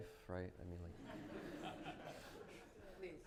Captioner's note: laughter